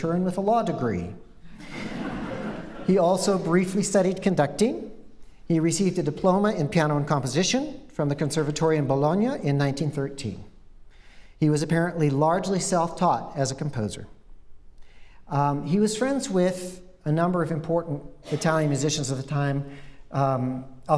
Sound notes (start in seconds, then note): 1.5 laughter